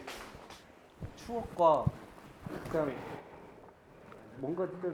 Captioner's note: is silent for a long while